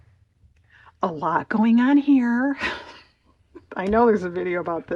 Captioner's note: laughs